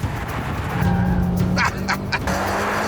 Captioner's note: laughs